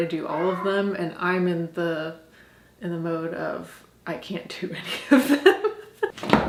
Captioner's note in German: lacht